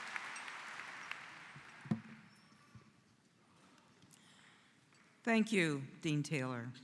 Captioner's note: �applause�